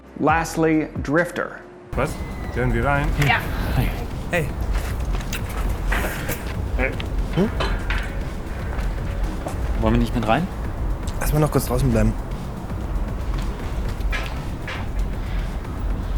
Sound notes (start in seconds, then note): 2.0 speaking in German; 5.0 lips smack; 9.9 Moritz speaks in German; 11.4 Jonas speaks in German